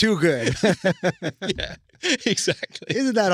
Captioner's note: laughing